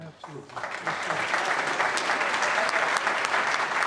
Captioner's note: applause